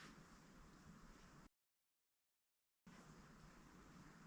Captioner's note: silence